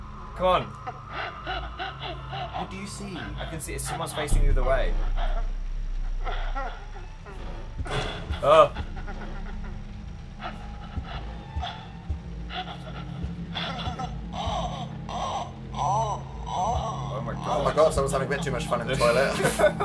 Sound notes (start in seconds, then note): 0.8 muffled crying; 4.8 muffled crying; 8.0 crash; 8.5 yelps; 8.9 muffled crying; 14.2 moaning; 19.4 laughs